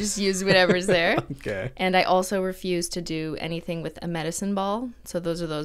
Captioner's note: laughing